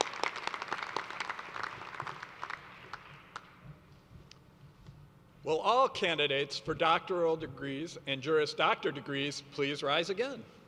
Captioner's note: applause